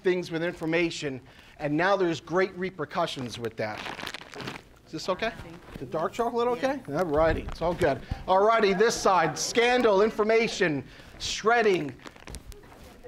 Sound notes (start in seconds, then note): 3.5 bag rustling